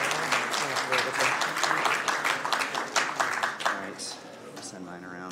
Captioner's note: applause